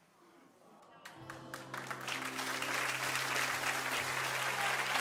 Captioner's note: audience clapping